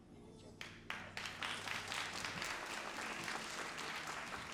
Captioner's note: all applauding